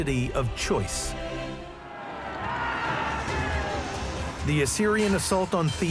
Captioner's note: lively suspenseful music; crowd shouts